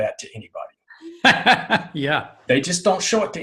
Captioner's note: laughing